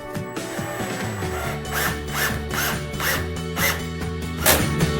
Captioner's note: drill whirs; upbeat music